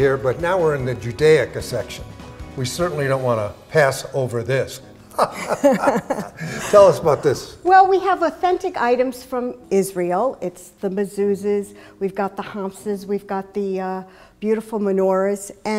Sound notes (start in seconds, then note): 5.1 laughs